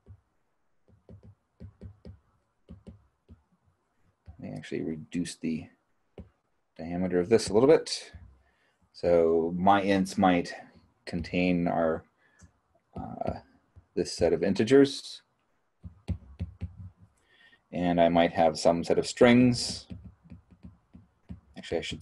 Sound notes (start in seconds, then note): 0.8 stylus thumping; 15.8 stylus thumping